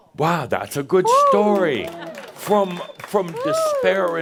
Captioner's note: some applause